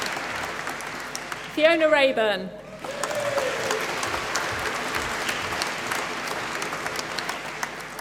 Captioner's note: applause